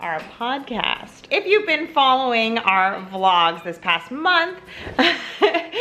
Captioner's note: laughs